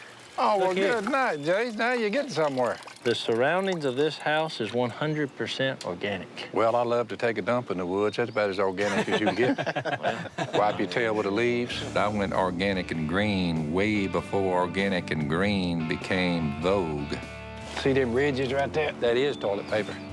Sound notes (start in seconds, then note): 8.8 all chuckling